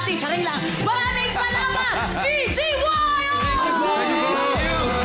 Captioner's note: robi laughs